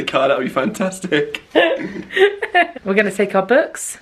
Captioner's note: laughs